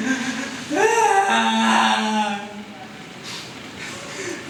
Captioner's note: wailing